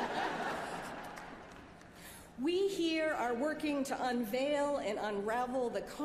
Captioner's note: laughter